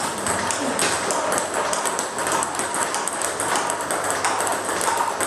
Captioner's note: ball ping pong hitting continues